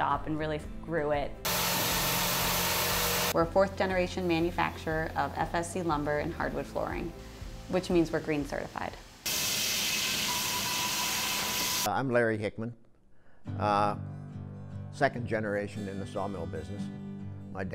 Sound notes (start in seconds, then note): 1.4 machinery revving; 9.3 machinery roaring